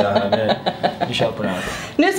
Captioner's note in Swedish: skrattar